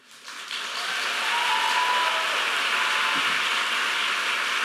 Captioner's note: audience applauding